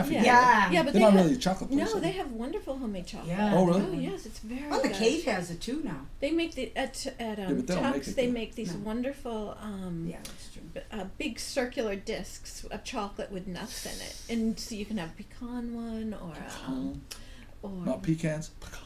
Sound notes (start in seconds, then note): 0.3 voiceover; 17.9 voiceover